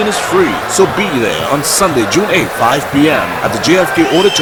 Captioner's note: wild applause and cheering for 22 seconds